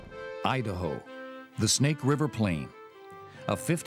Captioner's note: voiceover